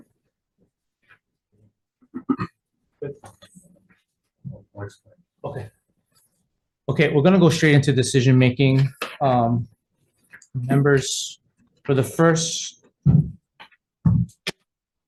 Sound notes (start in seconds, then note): 4.7 speaking faintly